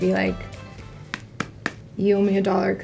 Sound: pats hand

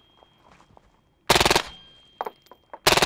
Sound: rapid fire; rapid fire

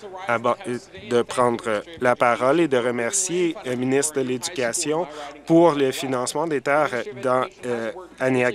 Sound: some Applause

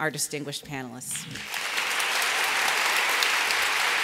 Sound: applause

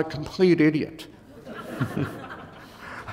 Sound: laughter

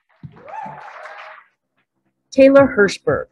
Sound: applauding

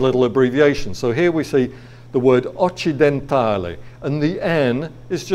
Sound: speaking in foreign language

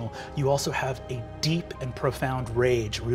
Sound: none

